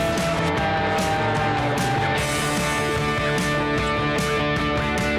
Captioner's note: plane engine buzzing